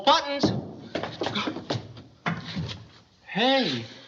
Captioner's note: gasps